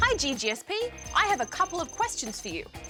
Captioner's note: none